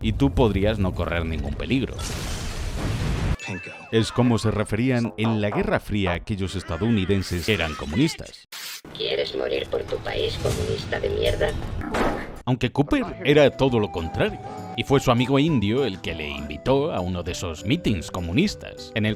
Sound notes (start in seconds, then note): 9.1 robot